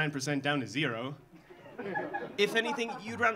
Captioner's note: audience laughing